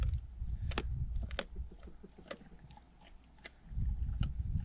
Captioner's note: gross crunching noises